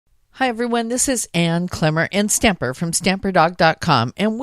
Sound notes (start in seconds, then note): 0.4 voiceover